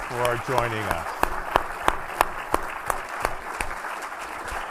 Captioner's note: audience applauding